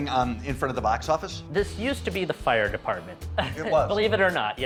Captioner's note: laughs